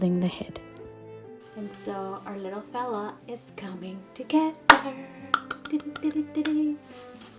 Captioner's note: clapping happily